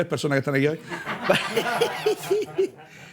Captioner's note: laughter